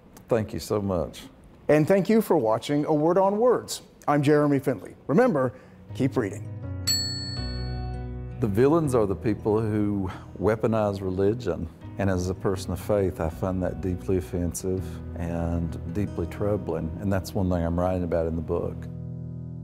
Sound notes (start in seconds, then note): 6.8 bell dings